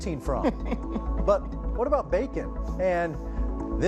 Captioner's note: laughing